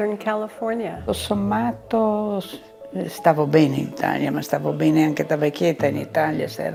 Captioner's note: speaking in foreign language